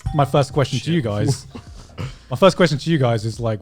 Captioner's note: glass dings